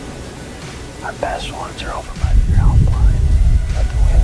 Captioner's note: wind blowing